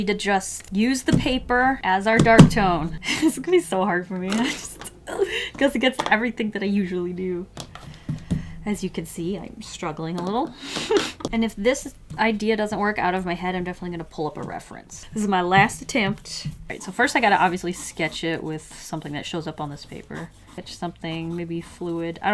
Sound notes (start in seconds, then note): 2.8 through laughter; 10.4 laughs